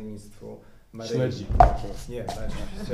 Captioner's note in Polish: śmiech